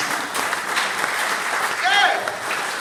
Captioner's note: audience applauding